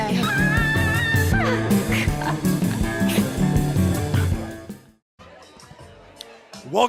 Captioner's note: laughs